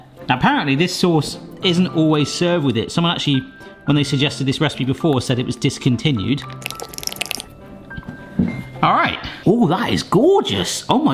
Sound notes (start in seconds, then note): 6.6 sauce squelching